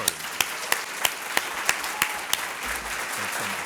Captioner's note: applause